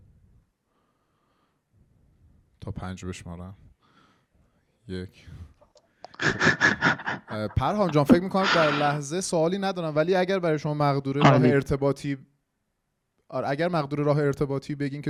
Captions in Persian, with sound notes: تا پنج بشمارم؟ ....یک (صدای خنده) پرهام جان، فکر میکنم در لحظه سؤالی ندارند، ولی اگر برای شما مقدور هست که راه ارتباطی بگین